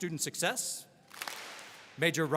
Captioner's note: all clap